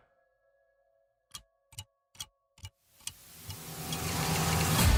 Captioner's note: ticking clock